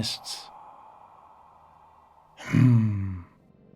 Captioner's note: man sighing